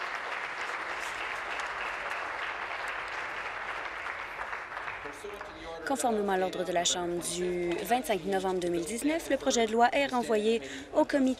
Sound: applause

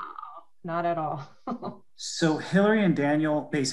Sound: chuckles

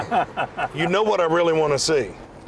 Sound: laughs

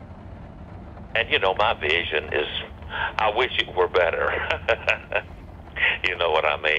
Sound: laughs

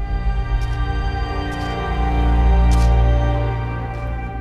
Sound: footsteps crunching on gravel

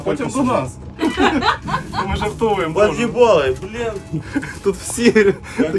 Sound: laughing

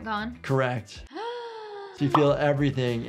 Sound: gasping

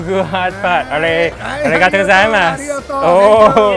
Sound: speaking foreign language

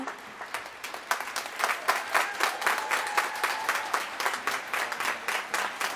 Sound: applause

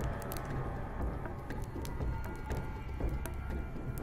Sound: fire crackling

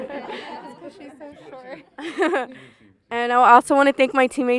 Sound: laughs

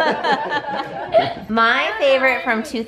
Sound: laughter

